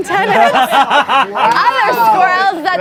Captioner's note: group laughs